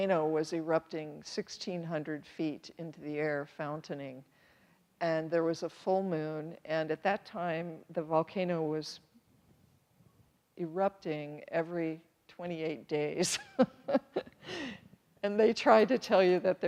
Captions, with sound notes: was erupting 16-hundred feet into the air, fountaining, and there was a full moon, and at that time, the volcano was erupting every 28 days (chuckles nervously) and they try to tell you that